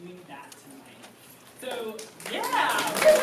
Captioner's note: applause